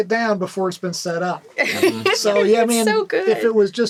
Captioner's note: laughs